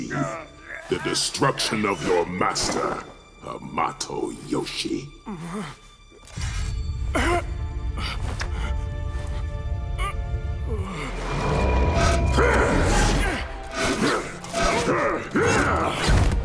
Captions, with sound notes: The destruction of your master, Hamato Yoshi. [grunting] [grunting]